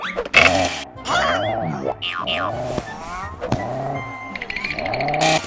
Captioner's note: grunting in anger